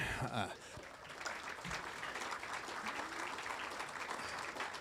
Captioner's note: audience applauding